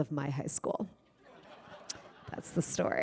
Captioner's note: laughter